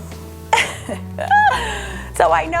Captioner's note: laughs